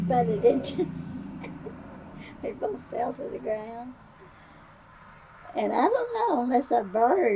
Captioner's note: laughs